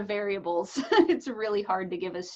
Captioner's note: chuckles